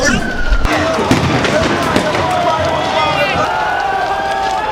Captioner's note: sirens blaring